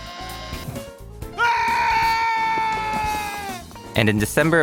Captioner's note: long, sustained scream